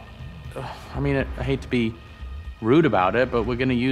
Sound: groans

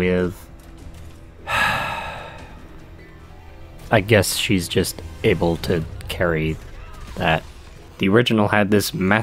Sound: sigh

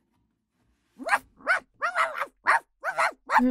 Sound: Bowser barking

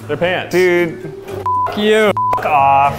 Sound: beep

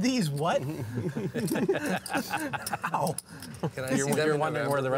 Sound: laughter

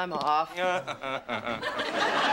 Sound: chuckles

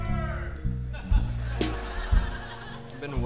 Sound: audience laughing

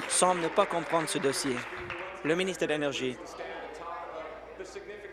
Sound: applause

